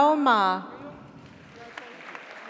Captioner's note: audience applauds; audience cheers